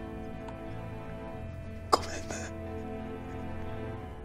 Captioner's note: Japanese